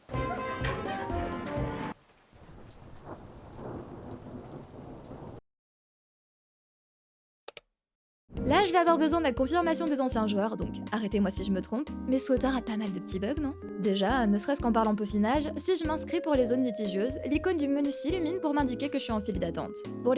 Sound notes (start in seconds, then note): 1.9 distant rain and thunderstorm